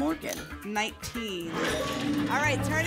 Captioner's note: lock sound